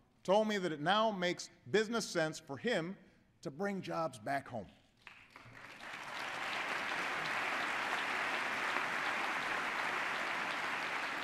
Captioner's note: applause